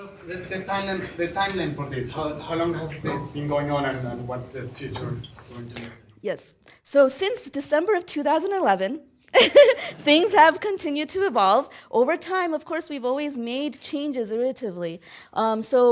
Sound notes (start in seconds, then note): 9.3 laugh